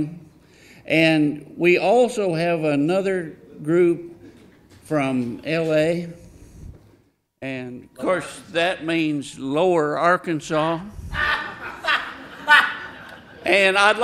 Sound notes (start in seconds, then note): 11.1 audience laughing